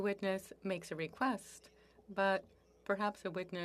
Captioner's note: speaking French